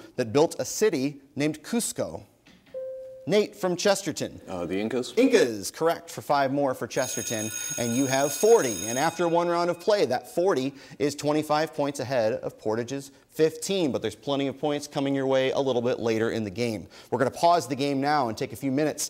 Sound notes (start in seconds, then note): 2.8 bell dings; 7.0 alarm buzzes